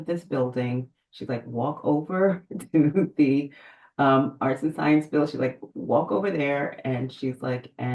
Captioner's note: laughs